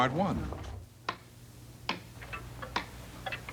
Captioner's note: clocks ticking